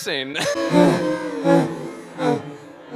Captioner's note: Satan laugh